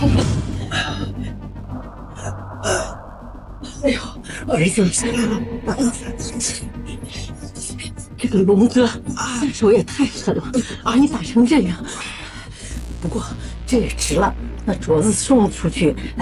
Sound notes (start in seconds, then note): 2.6 ugh